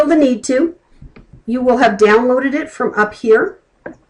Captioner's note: clicking